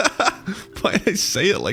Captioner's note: laughing